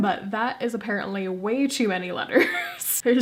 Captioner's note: laugh